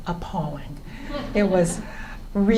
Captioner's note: laughter